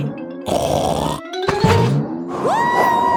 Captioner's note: snorts